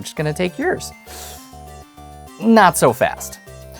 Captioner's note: inhales sharply